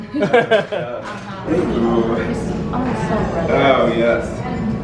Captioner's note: laughs